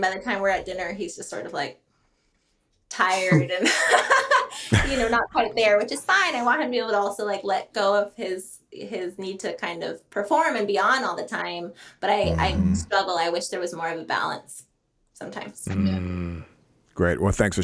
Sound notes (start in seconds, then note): 5.2 both laughing